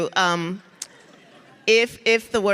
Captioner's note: audience laughs